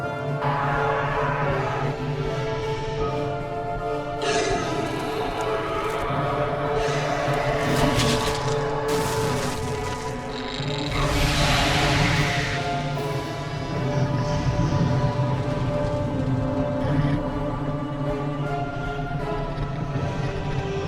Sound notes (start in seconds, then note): 0.1 dragon roaring; 3.9 dragon roaring; 7.5 flesh tearing; 10.0 roars; 13.6 dragon growls